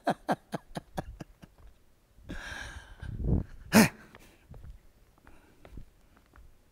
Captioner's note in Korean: 비웃음 소리